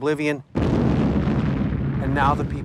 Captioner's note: bomb explodes